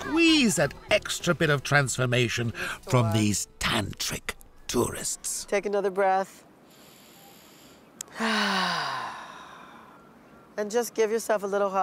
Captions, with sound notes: that extra bit of transformation from these tantric tourists. Take another breath. (Big sigh) And just give yourself a little hug.